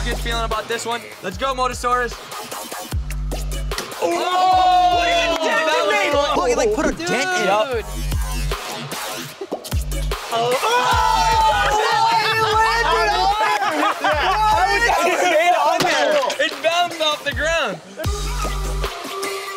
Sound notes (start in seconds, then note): 2.8 electronic music; 3.9 oohing and hollering; 8.5 electronic music; 10.2 screaming and laughing; 13.4 claps; 15.5 laughing